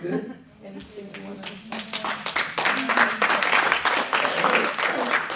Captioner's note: audience applauding